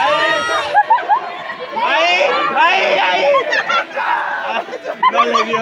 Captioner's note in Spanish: ruidos y risas